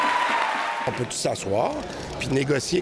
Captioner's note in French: cris et applaudissements